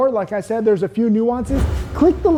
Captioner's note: animation whooshes